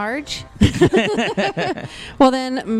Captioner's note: laugh